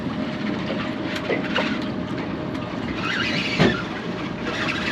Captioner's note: creaking; reel spinning